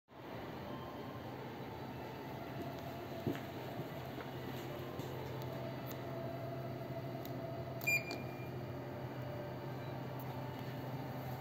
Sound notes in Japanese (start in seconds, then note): 7.8 商品選択音